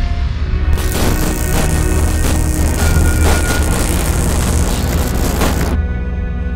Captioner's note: sparks